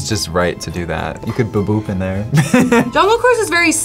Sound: laughs

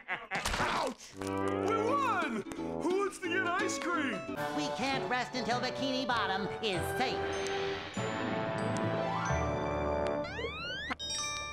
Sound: laughs

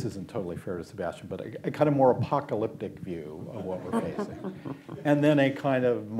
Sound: laughter

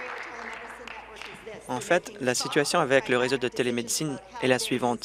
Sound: applause

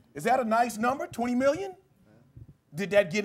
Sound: none

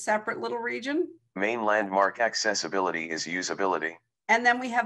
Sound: recorded voice

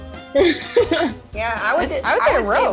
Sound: laughing

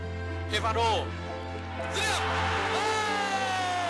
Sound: speaking vietnamese

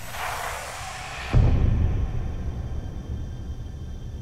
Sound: distant boom

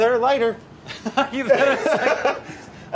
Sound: laughs

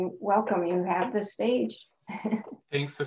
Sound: chuckles

